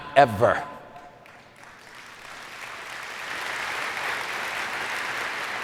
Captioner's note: audience applauding